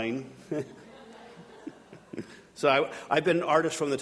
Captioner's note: audience laughing